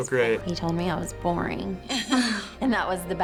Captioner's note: laughs